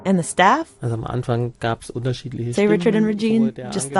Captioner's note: speaking German